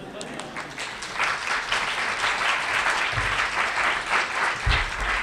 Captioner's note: applause